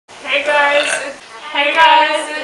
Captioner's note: burp